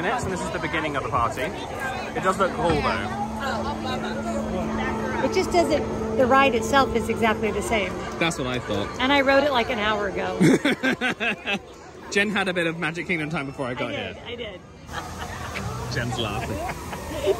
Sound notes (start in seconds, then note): 10.4 laughing